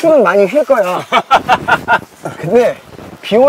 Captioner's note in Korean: 폭소